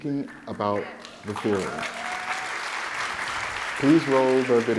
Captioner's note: audience applauding